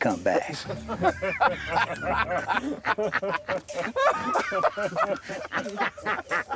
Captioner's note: men laugh